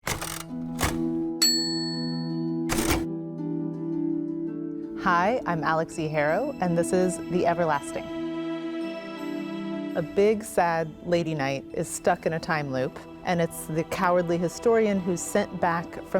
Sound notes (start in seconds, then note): 0.0 typewriter cranks; 2.6 typewriter dings; 3.4 soft music